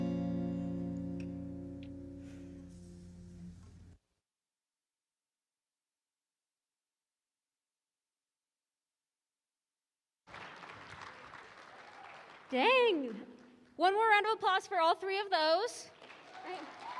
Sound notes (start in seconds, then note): 10.2 applause; 15.8 applause